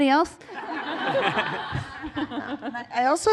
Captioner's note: laughter